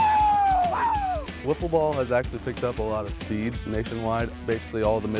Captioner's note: cheers